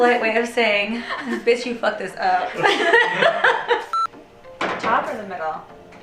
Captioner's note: laughing